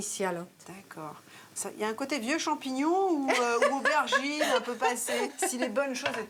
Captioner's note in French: rires